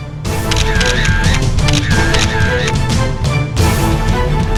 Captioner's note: camera clicking